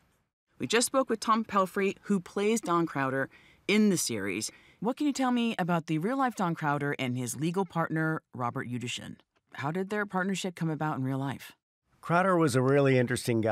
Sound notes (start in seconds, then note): none